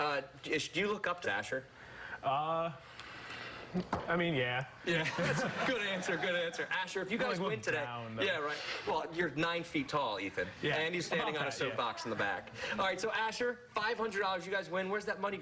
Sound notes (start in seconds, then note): 8.1 laughter